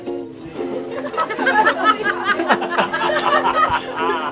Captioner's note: laughter